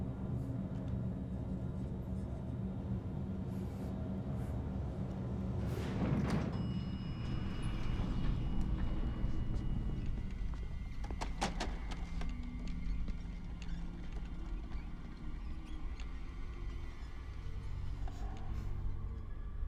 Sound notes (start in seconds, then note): 6.5 elevator bell dings; 10.8 cart clatters; 10.8 wheels squeaking